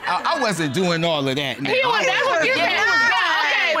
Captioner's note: indistinct chatter